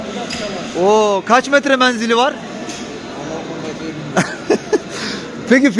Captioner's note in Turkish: kahkaha